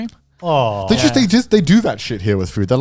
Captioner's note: exclaiming